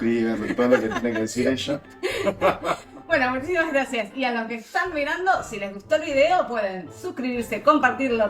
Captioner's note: laughs